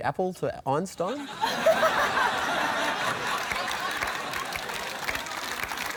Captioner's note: laughter